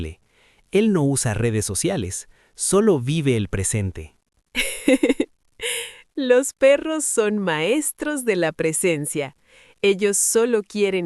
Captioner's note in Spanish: risas